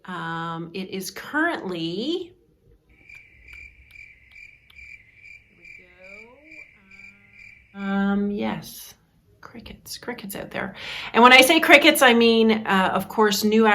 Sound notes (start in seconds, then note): 2.9 crickets chirping; 5.7 speaking off-mic